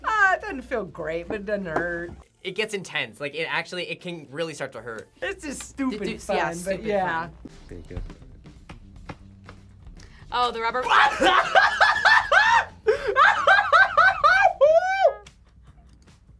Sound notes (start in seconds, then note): 13.5 laughs